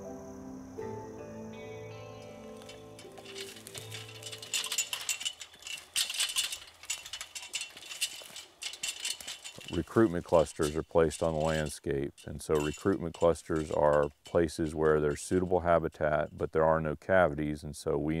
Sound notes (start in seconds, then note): 0.0 instrumental music plays; 2.7 ladder clinks